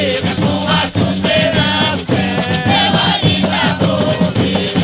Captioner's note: Arabic; Vietnamese